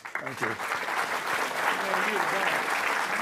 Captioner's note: audience clapping